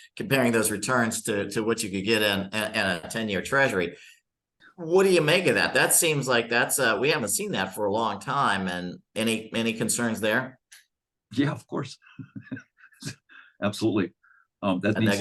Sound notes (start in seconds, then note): 12.0 chuckling